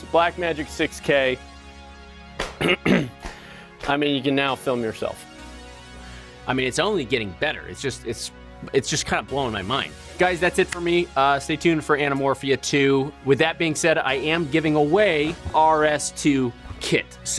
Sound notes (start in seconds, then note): 2.2 tapping loudly; 2.5 clears throat; 5.2 sharp upbeat music